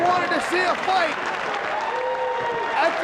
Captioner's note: spectators applauding